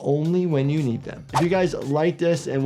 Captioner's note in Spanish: gráficos silbando